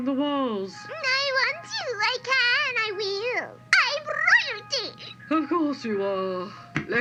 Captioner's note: patronizingly